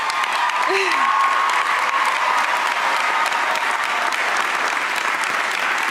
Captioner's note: cheers and applause